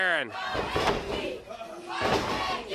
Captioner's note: crowd cheering